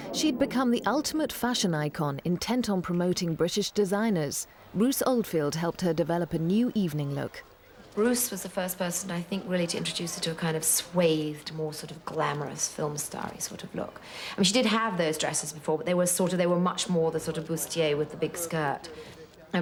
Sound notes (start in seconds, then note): none